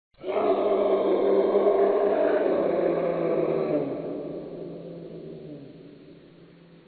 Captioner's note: figure roars